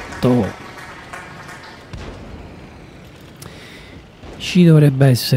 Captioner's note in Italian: Applauso